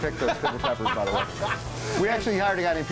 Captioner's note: laughter